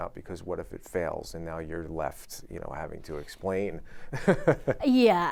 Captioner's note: chuckles